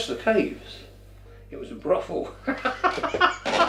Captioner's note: laughs